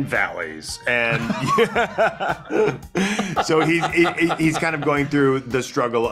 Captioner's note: laughing